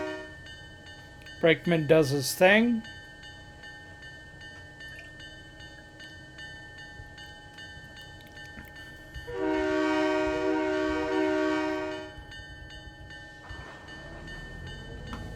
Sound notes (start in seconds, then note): 4.3 train whistle